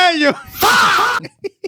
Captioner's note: laughing